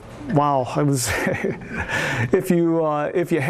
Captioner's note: laughs